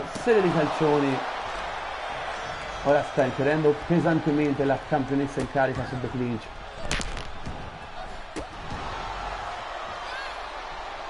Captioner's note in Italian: Applauso